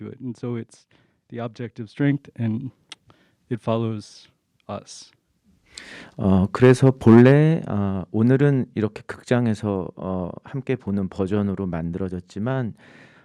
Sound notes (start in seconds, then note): 6.3 speaking in Korean